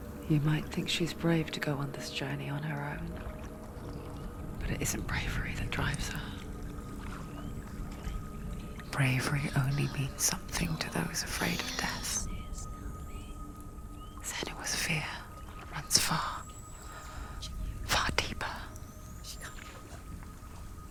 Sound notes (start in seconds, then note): 12.8 whisper